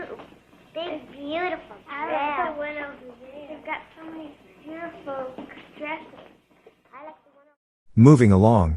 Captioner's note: general schoolgirl chatter about the dolls